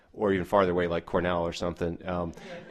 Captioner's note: audience laughter